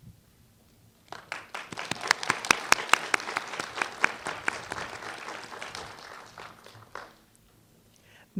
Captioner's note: applause